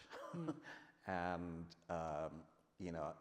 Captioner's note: laughs